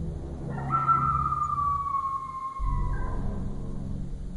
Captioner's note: creature bellowing